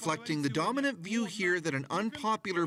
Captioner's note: speaking russia